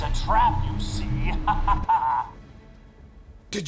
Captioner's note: laughs